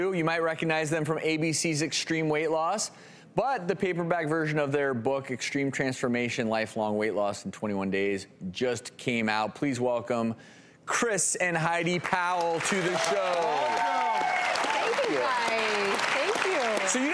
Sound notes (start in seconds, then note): 12.0 audience applause